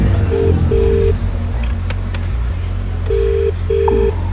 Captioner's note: phone ringing